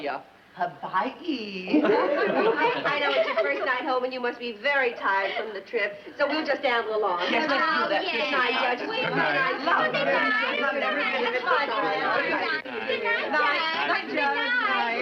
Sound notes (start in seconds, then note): 8.0 everyone Talking